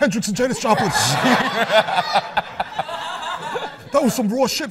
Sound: laughs

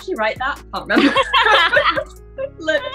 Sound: laughter

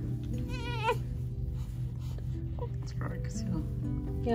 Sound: baby grunts

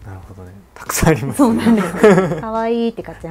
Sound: laughs

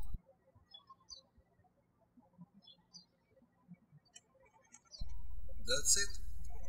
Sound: birds chirping

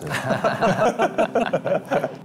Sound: laughing

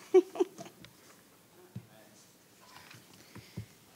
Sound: laughs

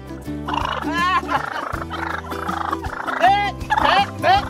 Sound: turkeys gobbling

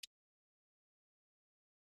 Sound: silence

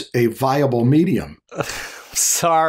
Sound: chuckles

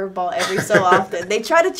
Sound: laughing

